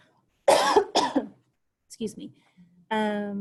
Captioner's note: coughs loudly